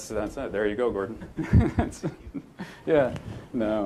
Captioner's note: laughs